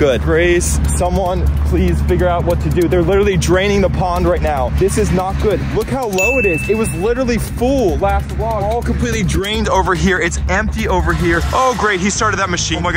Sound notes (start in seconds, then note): 6.2 ding sounding